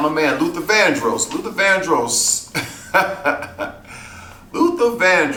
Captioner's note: laughs